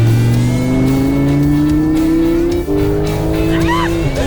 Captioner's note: car engine revving